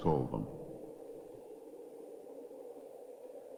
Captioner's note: wind whooshing